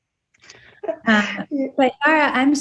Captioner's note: Yara laughs